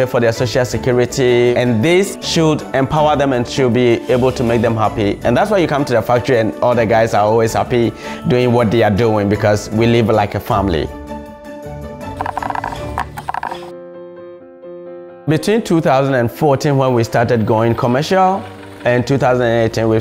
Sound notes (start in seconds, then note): 12.3 bamboo Falling; 14.0 piano Music